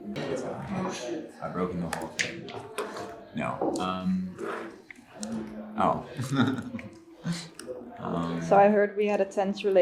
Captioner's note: laughter